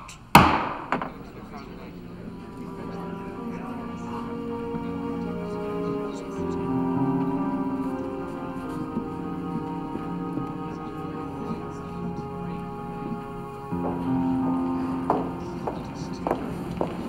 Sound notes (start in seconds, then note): 1.6 court murmurs; 1.6 somber orchestral music